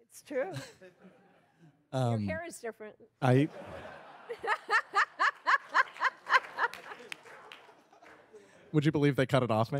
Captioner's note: laughter